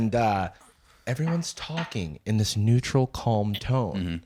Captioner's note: serenely